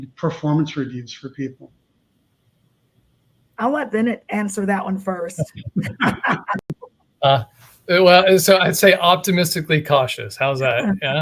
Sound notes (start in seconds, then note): 5.4 laughing